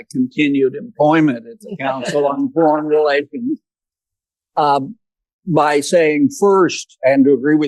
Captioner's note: laughter